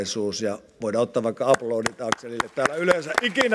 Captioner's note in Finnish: aplodeja